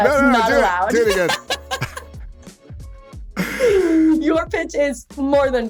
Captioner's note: both laughing